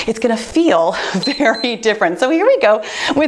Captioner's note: timer beeps